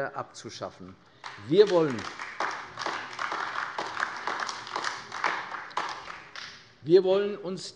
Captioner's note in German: Beifall AfD